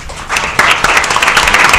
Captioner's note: applause